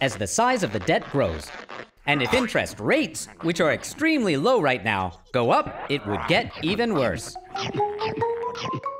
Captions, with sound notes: as the size of the debt grows. And if interest rates, which are extremely low right now, go up, it would get even worse. [chomping]